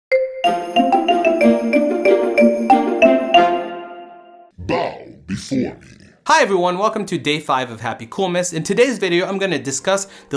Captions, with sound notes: (christmas music) - *deep voice* Bow before me! Hi everyone, welcome to day five of HappyCoolmas. In today's video I'm going to discuss the